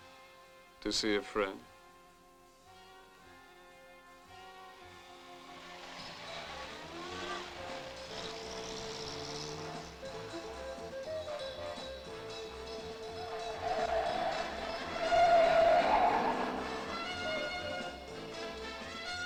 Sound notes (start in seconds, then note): 6.4 mysterious music; 13.4 tires screeching